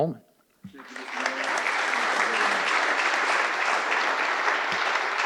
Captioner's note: audience applauding